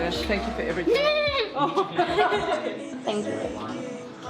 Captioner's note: high-pitched lament